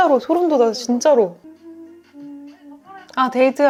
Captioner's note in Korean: 흥얼거리는